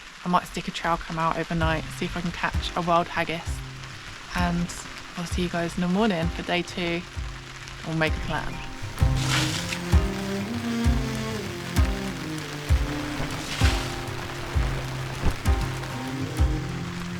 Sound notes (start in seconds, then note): 9.1 splosh; 9.7 rain; 13.5 splosh; 14.1 rain